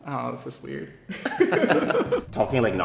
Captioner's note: everyone laughing